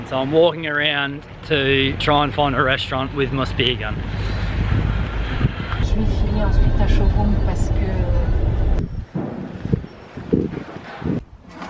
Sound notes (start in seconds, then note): 6.4 speaking in foreign language